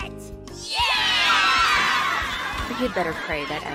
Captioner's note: cheering